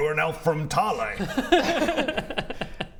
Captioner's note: laughs